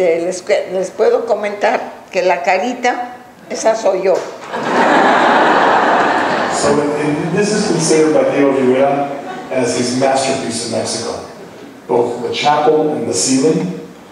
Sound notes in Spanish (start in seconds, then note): 4.5 laughs